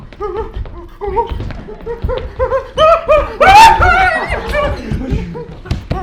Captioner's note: alfred squeaks and screams in distress